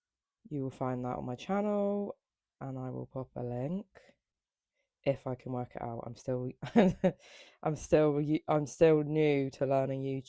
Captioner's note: laughter